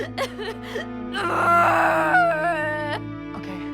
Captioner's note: sobbing and straining